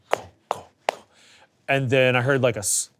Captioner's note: person thudding